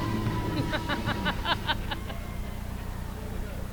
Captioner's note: laughing